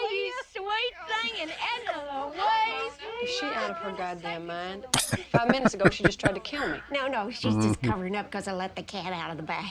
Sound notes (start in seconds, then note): 5.0 laughing